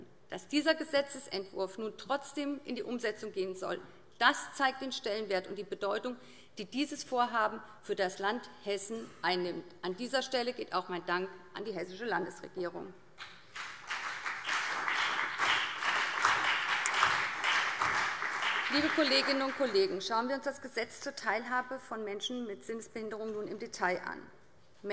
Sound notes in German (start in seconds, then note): 13.2 Beifall BÜNDNIS 90/DIE GRÜNEN und CDU